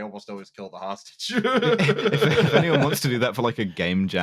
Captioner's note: laughter